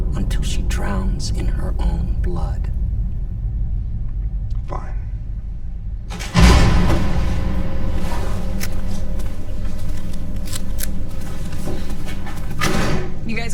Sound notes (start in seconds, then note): 6.1 door opens; 9.4 tense dramatic music